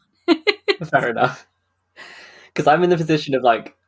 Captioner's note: laughing